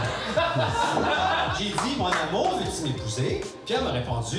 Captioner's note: laughs